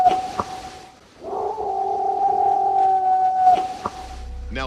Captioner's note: howling, knocking; howling, knocking continue